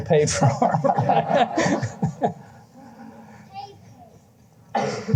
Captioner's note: laughter